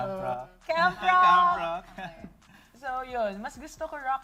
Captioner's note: chuckles